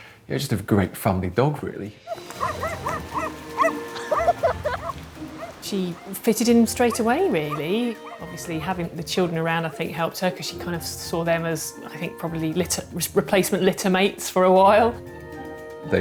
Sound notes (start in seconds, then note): 2.1 dog barking